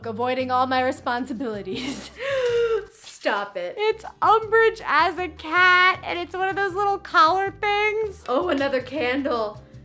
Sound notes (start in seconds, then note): 2.1 gasps